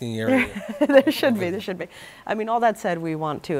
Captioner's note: laughter